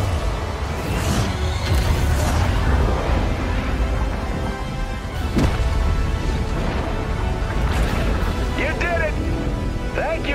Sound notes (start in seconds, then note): 1.6 loud booming; 5.5 energetic fanfare music